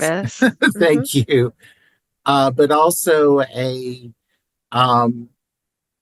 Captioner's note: laugh